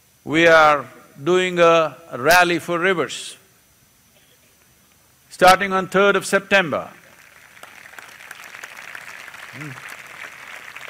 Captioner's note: applause